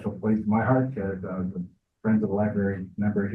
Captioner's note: speaks faintly